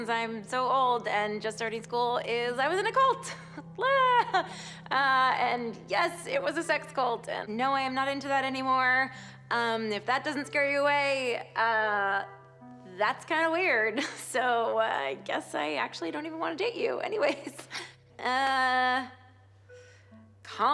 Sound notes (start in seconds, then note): 2.7 chuckles